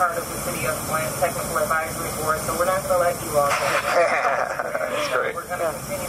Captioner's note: laughter